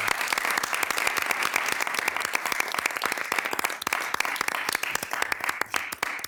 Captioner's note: city council and attendees applauding